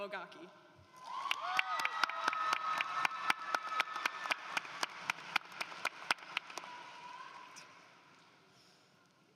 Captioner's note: applause